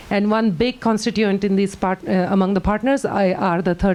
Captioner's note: none